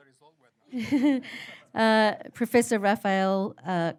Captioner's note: laughter